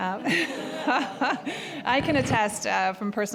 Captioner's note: audience laughing